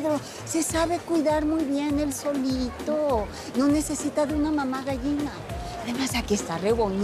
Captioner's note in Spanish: none